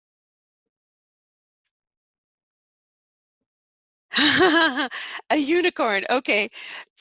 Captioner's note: laughing